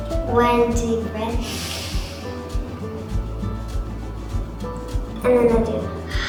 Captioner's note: inhales